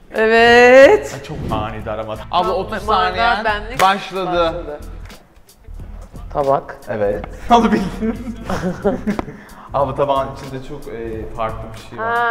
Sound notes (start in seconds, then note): 3.8 claps; 7.7 laughs; 7.8 nervous laugh